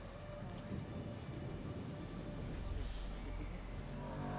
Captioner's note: wind rustling; pensive music continues; brooding music